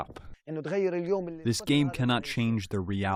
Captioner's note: through translator